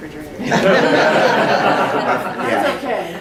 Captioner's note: laughter